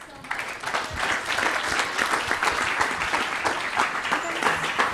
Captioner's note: applause